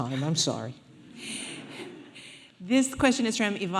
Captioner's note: audience laughing